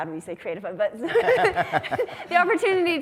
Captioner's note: laughs